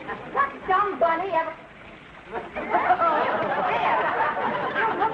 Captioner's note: audience laughing